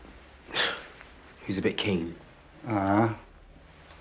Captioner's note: scoffs